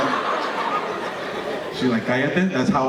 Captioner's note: audience laughing